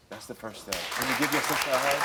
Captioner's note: audience clapping